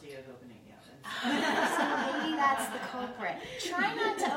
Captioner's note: both laughing